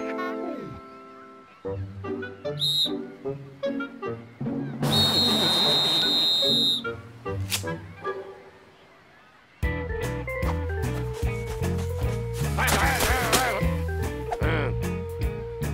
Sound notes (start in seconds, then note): 2.5 whistle blows; 4.8 whistle blowing